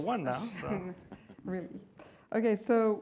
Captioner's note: laughs